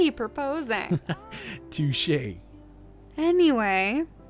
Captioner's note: chuckles